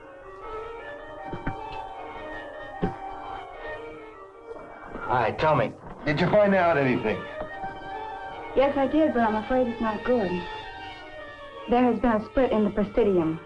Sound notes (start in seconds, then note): 0.2 soft dramatic music continues; 4.0 sighs